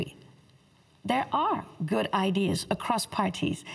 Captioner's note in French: voix de l'interprète